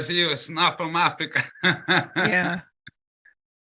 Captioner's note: laughs